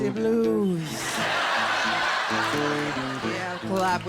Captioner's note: laughter